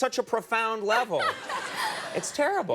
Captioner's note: audience laughing; Amy laughing